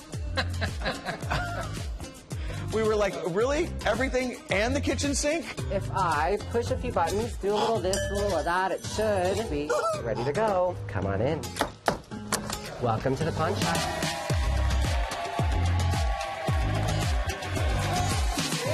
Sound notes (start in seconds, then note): 0.3 laughter; 12.2 door clicks; 13.6 cheers and applause